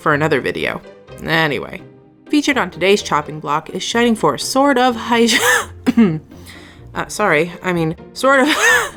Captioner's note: cough; cough